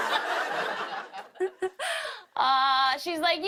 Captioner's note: laughs